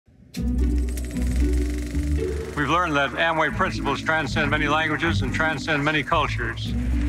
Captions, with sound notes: (videotape clicking) (bright music) We've learned that Amway principles transcend many languages and transcend many cultures.